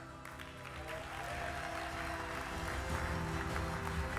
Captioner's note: audience claps